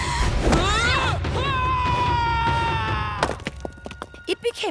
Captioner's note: screaming